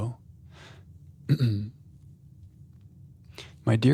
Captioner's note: clears throat